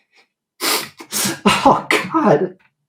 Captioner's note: sniffles, sobs